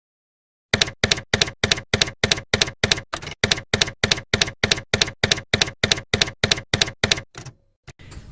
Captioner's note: typewriter keys clacking